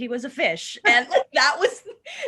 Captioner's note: laughter